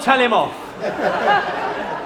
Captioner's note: laughter